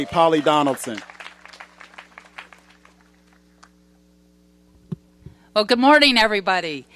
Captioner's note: applause